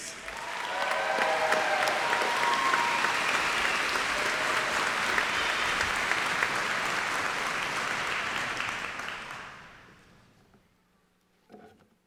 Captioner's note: applause